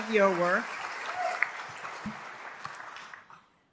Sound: applause

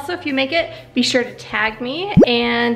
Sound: tags bloop

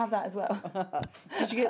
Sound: laughs

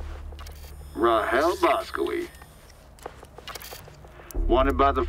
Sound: holoprojector hums

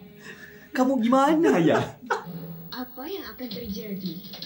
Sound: laugh

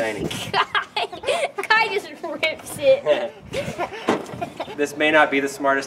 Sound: laughs

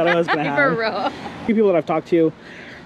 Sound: laughing

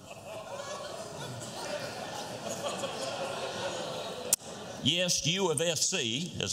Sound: laughter

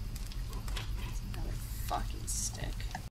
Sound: creature chittering

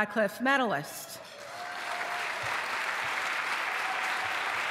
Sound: applause

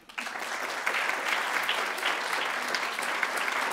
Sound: applause

